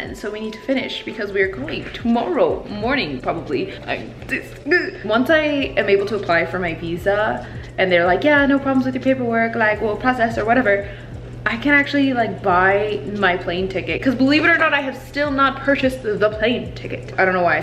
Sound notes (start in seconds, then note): 4.3 stutters